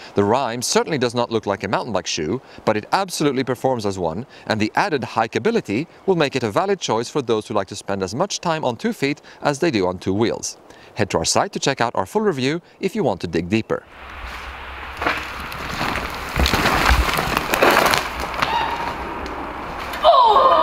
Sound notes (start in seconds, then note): 13.9 bicycle rustling